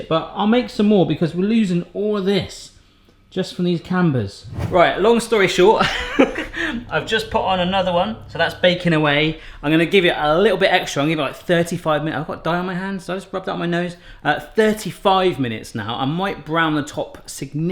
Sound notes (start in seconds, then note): 5.8 laughs